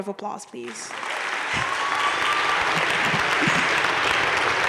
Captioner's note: crowd applauding